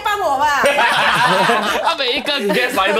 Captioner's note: laughs